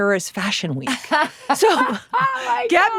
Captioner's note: Laura laughs